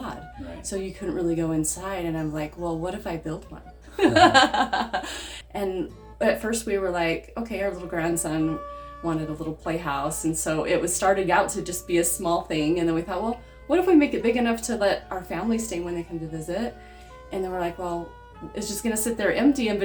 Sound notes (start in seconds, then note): 4.0 laughs